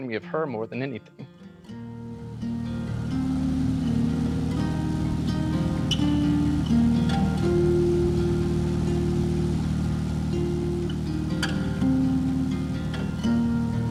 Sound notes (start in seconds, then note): 2.6 car motor rumbling; 2.6 gentle music